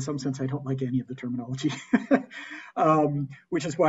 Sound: laughs

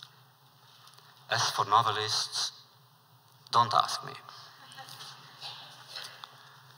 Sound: laughter

